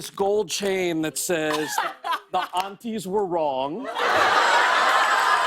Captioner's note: laughter